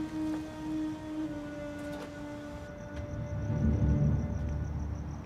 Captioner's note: insects chirping